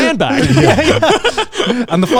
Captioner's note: everyone laughs